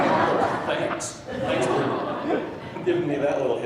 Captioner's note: laughing drowns out speaker; laughing